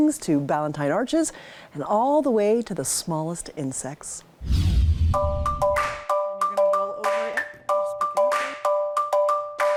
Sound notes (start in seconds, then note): 4.4 wind whooshing; 5.2 soft music